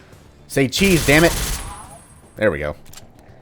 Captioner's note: Ingram spraying